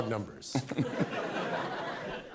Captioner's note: laughter